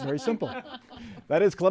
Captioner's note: laughter